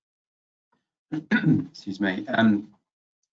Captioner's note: clears throat